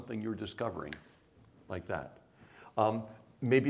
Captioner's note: snaps fingers